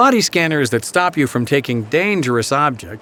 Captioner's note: voiceover